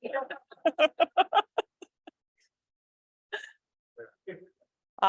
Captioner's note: laughs